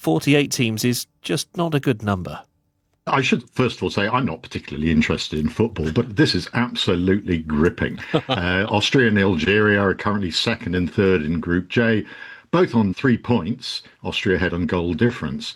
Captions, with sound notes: forty-eight teams is just not a good number. I should first of all say I'm not particularly interested in football, but this is absolutely gripping. [laughs] Uh, Austria and Algeria are currently second and third in Group J, both on three points. Austria ahead on goal difference.